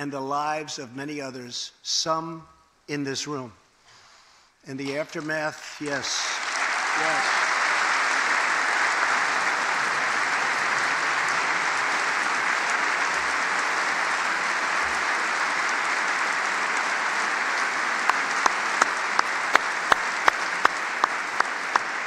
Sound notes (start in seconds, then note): 10.0 applause